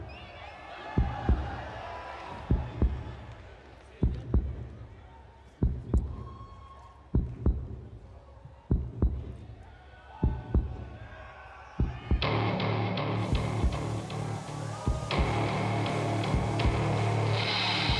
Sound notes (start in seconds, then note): 0.0 cheers and applause; 1.6 thumping